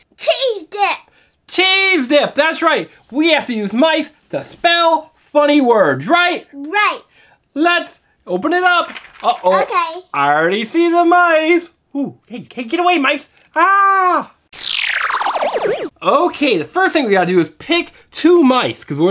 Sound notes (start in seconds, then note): 0.3 voiceover; 6.6 voiceover; 13.6 screams